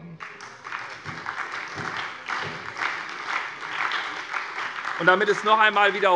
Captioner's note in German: Beifall bei der SPD